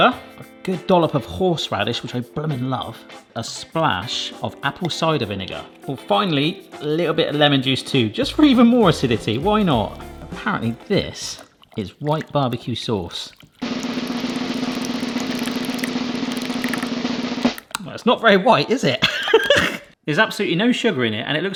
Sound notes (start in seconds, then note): 13.6 drums rolling; 13.6 sauce squelching; 19.7 laughs